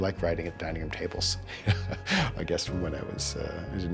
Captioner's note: chuckles